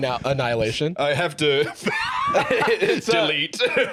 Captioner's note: laughs